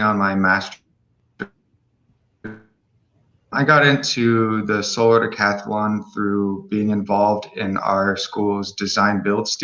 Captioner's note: unstable audio